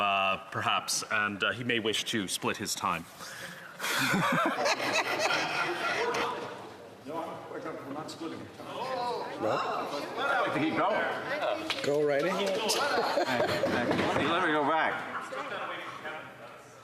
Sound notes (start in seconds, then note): 9.0 laughter